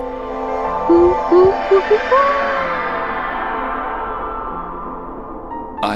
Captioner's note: teleportation sound